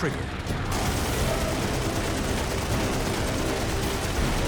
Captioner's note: guns firing